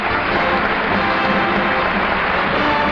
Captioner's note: audience applauding